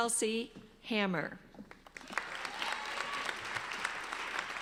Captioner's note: applauding